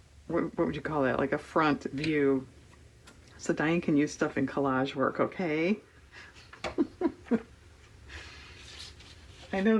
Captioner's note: laughs